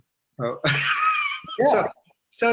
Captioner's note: laughs